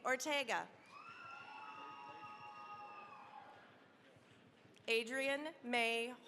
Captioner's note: cheering, applause